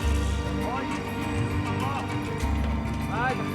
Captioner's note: chattering Continues